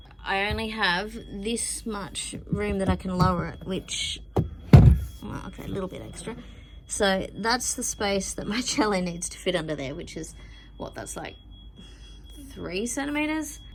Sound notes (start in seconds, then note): 4.7 cello case shifts and thuds on the floor